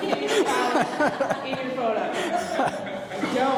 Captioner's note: laughing; all laughing